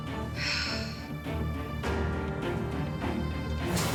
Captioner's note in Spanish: suspiros